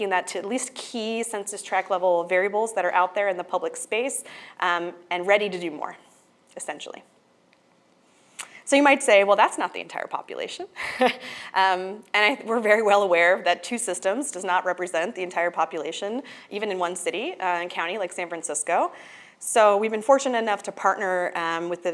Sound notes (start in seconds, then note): 11.1 laughs